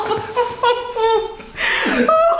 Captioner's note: loud cracking; laughing